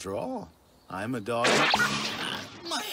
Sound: smack

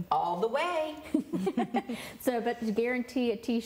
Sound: laughing

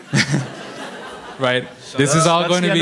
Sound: audience laughing

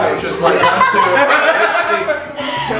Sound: laughter

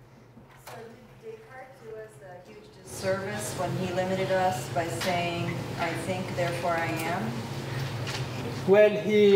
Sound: none

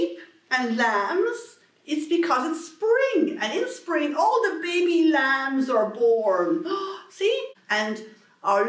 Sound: gasp

